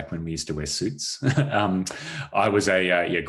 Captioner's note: chuckles